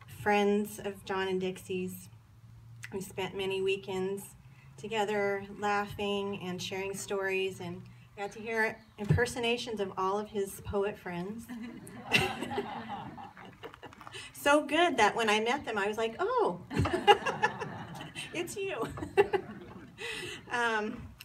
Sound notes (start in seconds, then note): 12.4 laughs; 18.8 laughter